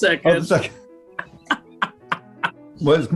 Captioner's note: laughing